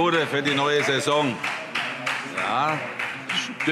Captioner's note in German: Vereinzelter Beifall